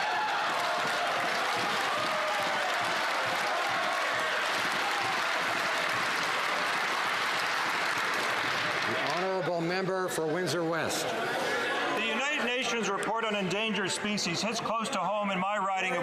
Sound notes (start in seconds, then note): 7.6 some Applause